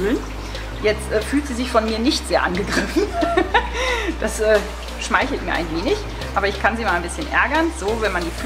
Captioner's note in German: lacht